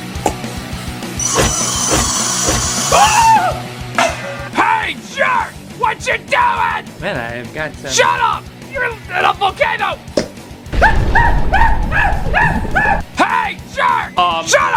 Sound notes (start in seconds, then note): 1.3 screaming skeleton; 2.8 screaming; 10.8 screaming while he melts